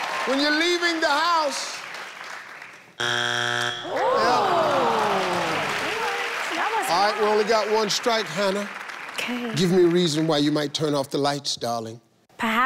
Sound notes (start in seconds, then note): 0.0 audience clapping; 3.0 buzzer sounding